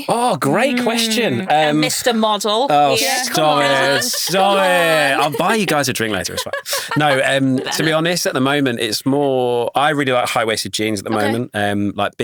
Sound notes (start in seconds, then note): 3.0 chuckles; 6.5 laughing